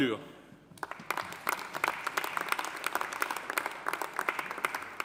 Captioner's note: audience applauding